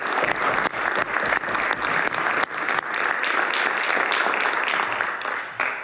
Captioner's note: some Applause